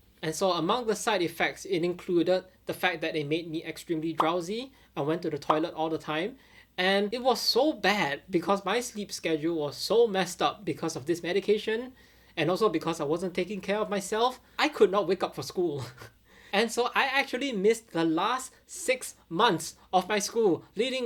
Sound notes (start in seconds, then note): 15.8 chuckling